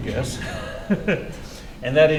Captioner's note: laughs